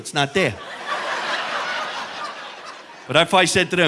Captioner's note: audience laughing